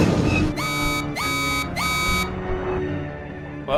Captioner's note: alarm sounds